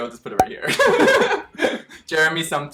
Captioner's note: both laughing